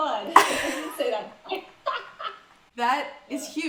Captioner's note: laughs